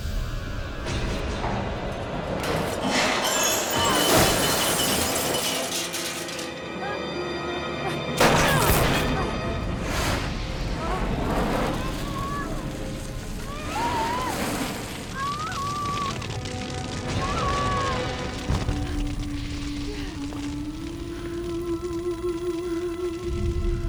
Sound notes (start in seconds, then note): 0.0 sharp climactic music; 2.3 glass shatters; 8.2 gun blasts; 10.5 flames whoosh; 11.8 Casey screaming